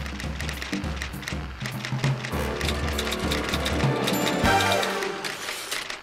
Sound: typewriter tapping

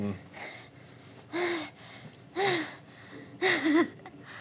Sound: exasperated breathing

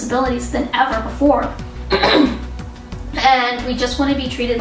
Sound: clears throat

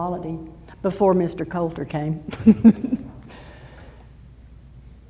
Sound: laughs

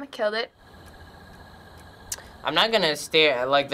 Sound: night insects chirping

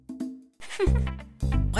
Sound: evil snicker...I mean playful

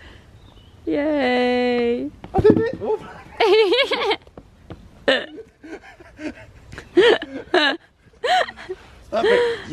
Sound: laughing

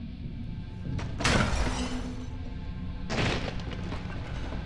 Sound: objects crashing

